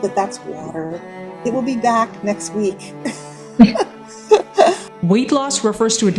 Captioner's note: laughs